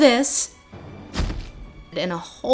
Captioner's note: sad thud